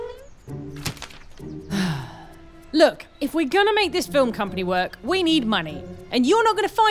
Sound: Lucy, sighing

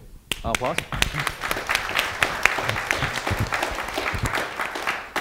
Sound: audience applauding

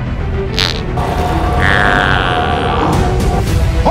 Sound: weird fart

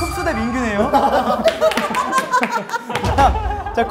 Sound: hahahahahahaha

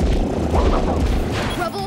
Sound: roaring

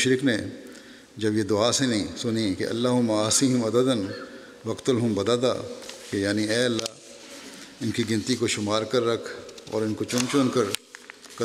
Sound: Arabic

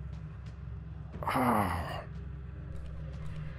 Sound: groaning

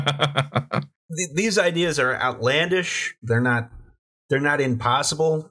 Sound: laughter

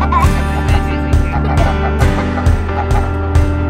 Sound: laughter

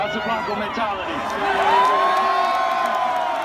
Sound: applause

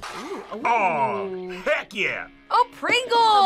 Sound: none

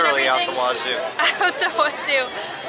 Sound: laughter

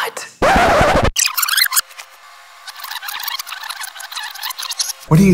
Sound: rewind sounds

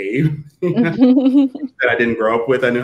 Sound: all laughing

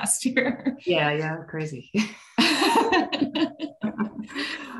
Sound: laughing

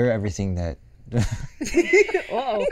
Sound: laughing

